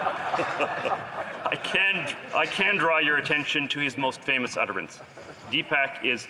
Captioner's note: laughter